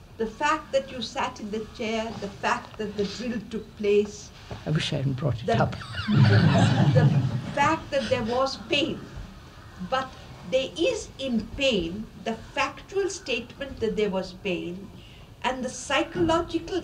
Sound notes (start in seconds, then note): 5.6 laughter; 5.6 laughs